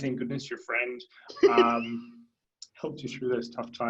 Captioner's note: laughing